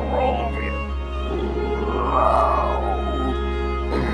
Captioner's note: playful growling